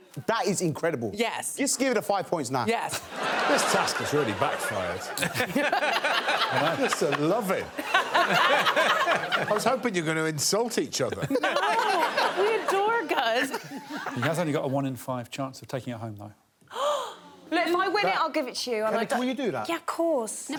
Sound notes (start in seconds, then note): 3.4 audience laughing; 5.4 all laughing; 7.7 all laughing; 16.7 gasps